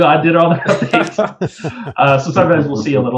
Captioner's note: laughs